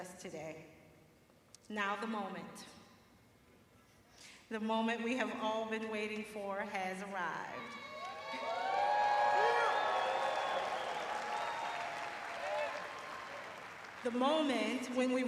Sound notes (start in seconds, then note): 4.3 cheering